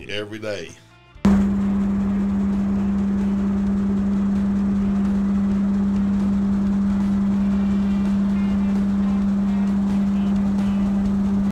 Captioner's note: machine humming